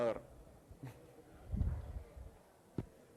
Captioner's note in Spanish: risitas